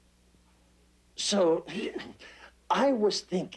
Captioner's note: clearing throat